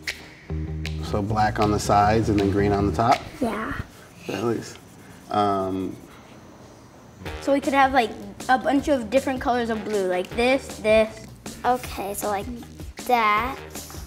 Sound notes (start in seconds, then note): 4.2 markers squeaking